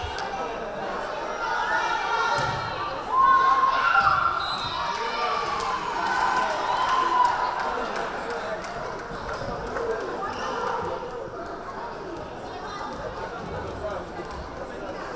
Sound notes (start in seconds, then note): 3.1 crowd cheering; 4.4 whistle blaring